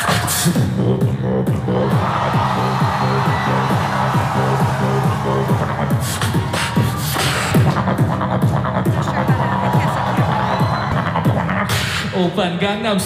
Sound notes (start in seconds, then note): 1.8 cheering; 5.1 beatboxing